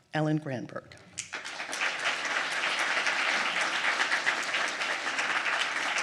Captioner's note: audience applauding